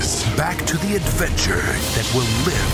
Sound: voiceover

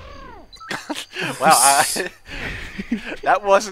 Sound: laughter

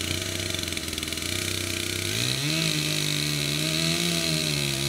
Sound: chainsaw buzzing

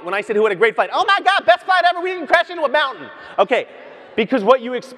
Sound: none

